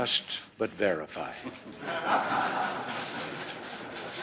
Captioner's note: laughter